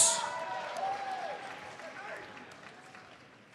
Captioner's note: audience applauds